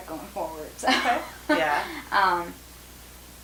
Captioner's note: chuckling